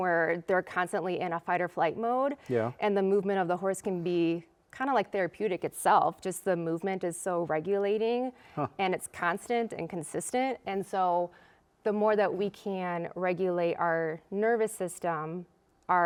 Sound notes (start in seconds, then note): none